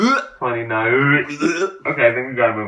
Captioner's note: mimics vomiting